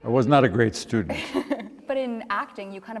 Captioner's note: interviewer laughs